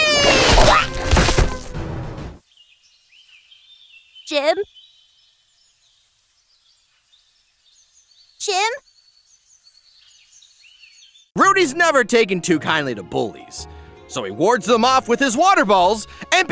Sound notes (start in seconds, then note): 0.0 splash; 2.4 birds chirping; 5.5 birds chirping; 9.4 birds chirping